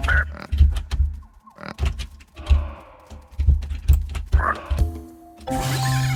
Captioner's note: loud as fuck keyboard